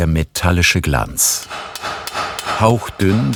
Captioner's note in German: Metallisches Hämmern